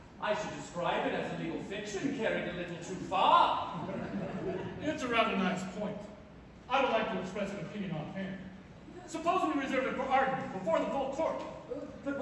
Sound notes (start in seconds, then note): 3.7 laughter